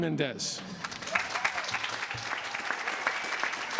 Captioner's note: applause